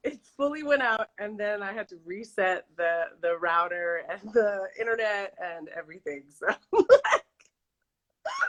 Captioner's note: laughs